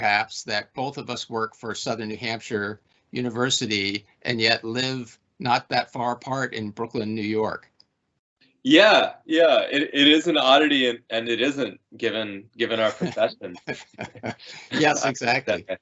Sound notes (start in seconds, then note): 12.6 laughing